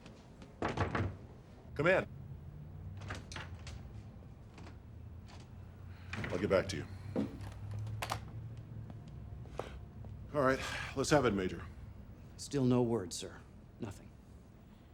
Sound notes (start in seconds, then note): 2.9 door open close; 8.7 footstep